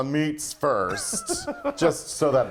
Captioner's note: laughs